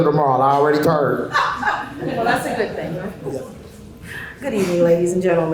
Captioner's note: laughter